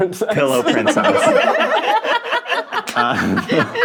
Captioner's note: all laughing